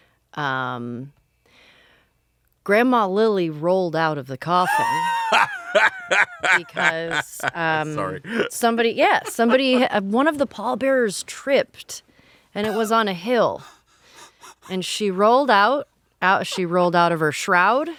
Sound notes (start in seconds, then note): 4.6 laughing